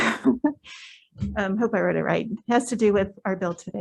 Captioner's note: laughs